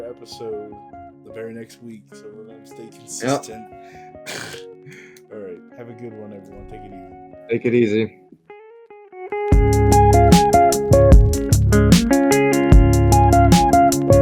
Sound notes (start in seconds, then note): 0.0 instrumental music plays; 3.2 laughs